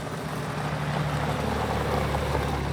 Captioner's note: none